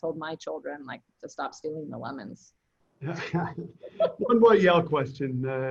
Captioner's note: laughs